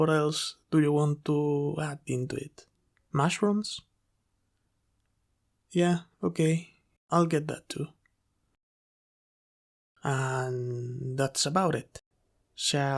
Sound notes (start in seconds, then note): none